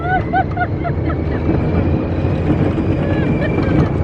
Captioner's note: roller coaster revs; passengers laughing